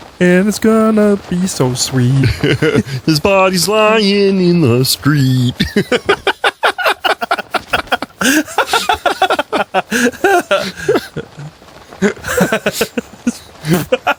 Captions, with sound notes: And it's gonna be so sweet His body's lyin' in the street [Laughs] [Chuckles]